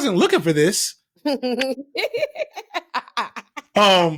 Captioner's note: laughing